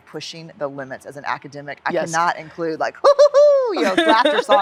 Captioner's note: laughs